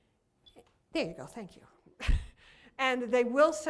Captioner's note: laughs